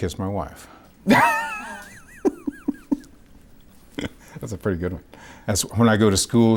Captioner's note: laughing